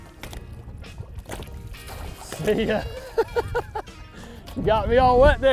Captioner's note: water splashing; laughing